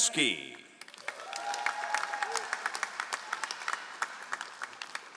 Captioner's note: all applauding